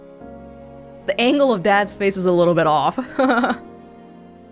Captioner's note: chuckles